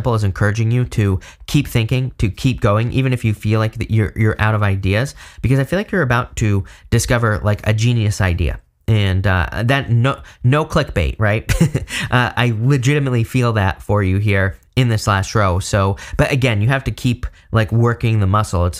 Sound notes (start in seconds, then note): 11.5 laughs